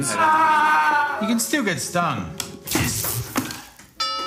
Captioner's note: screams